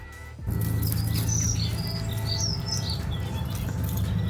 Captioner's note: birds chirping